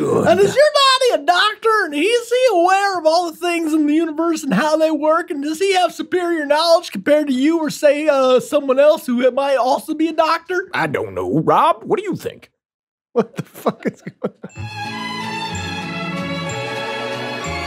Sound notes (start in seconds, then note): 13.1 laughs; 13.3 idyllic music